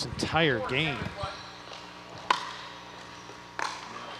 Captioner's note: ball bouncing